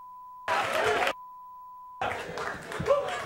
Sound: audience cheering; beep

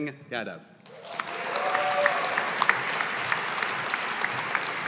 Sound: audience applauding

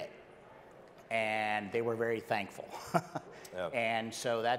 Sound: chuckles

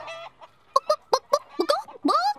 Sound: clucking

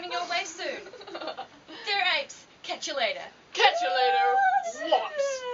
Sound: strange woo sounds

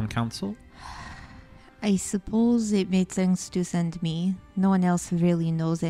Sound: sighs

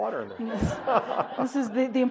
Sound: all laughing

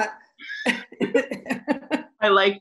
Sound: laughter

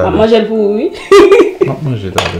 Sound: chuckles

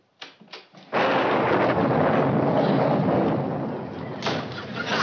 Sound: thunder

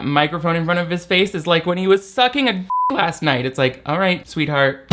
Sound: beep

